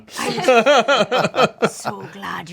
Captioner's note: group laughs